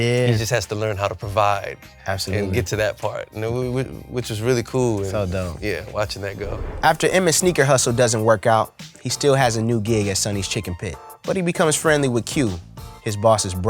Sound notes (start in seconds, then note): none